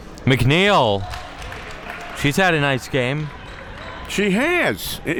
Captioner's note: spectators applauding